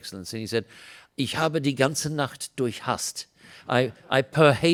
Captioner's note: foreign